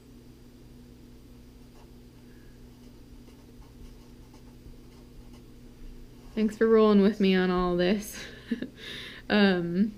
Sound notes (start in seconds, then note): 3.2 pen writing on paper